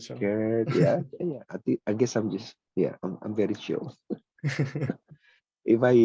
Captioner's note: laughs